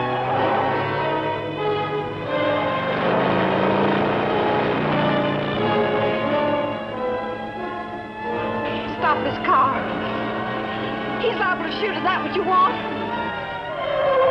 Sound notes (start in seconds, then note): 8.6 siren blaring